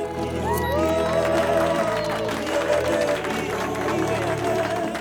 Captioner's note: applause